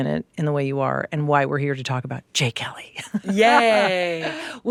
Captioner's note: laughs